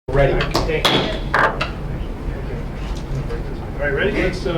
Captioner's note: gavel Cracking